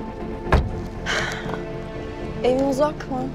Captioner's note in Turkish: İç çekti